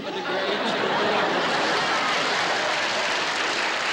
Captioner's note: laughter